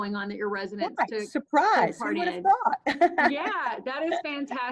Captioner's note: laughs